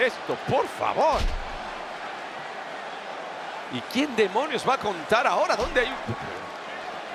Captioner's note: applause